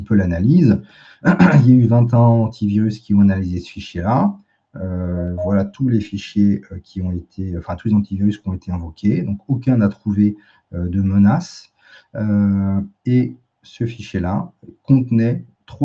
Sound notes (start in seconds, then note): 0.8 raclement de gorge